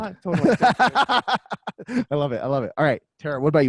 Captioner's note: laughs